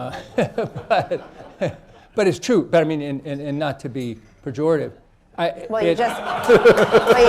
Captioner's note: laughter, laughs; laughter